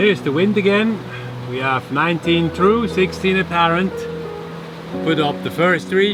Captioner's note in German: Wind